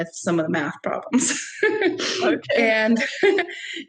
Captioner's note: laughing